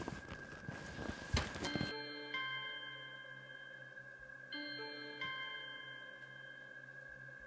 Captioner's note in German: phone ringing